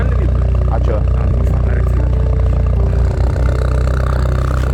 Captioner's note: sarcasm